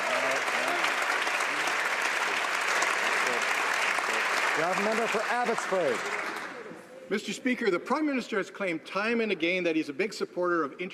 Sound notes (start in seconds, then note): 0.0 some Applause